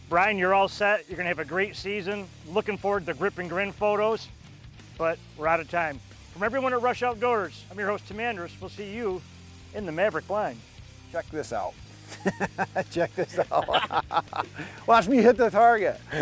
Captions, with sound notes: Brian, you're all set. You're gonna have a great season. Looking forward to grip and grin photos, but we're out of time. From everyone at "Rush Outdoors," I'm your host Tim Andrus. We'll see you in the Maverick blind. - Check this out. (laughing) Check this out. Watch me hit the target.